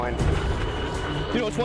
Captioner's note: helicopter engine